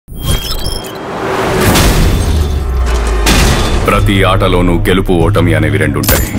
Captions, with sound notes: [bang] Every game has both win and defeat.